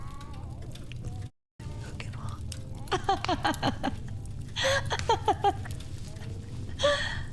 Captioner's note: laughs